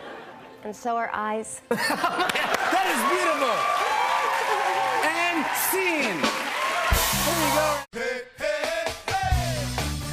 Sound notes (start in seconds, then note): 1.7 laughter; 2.1 cheers and applause